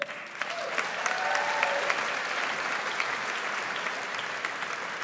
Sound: audience applauds

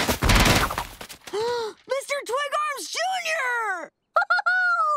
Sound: gasping; laughing

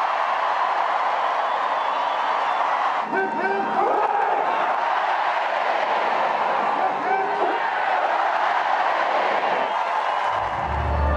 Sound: cheering and applause

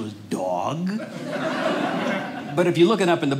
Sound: audience laughing

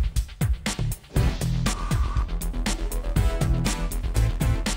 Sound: none

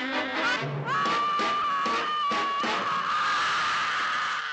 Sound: Gladys groaning; Gladys screaming

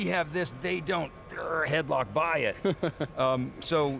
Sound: laughing

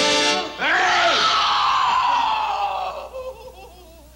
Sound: Ellie screaming

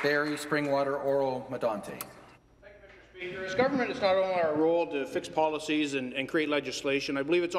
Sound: some Applause

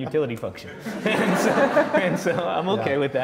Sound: laughing; laughs

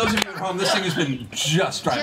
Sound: all laugh

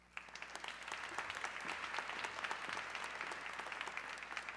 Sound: audience clapping

